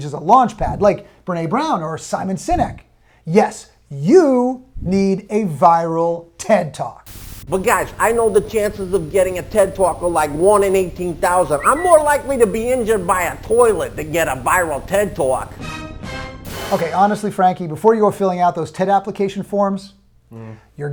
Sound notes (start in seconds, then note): 7.1 static crackling; 15.8 ominous musical flourish